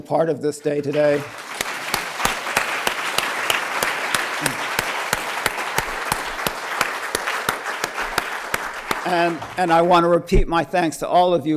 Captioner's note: applause